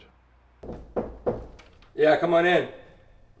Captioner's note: knocking at door